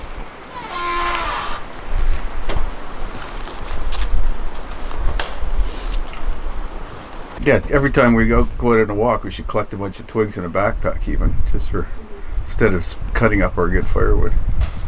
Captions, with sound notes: (door creaking) Yeah, every time we go on a walk, we should collect a bunch of twigs in a backpack, even, just for, instead of cutting up our good firewood,